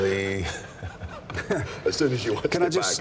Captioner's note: laughs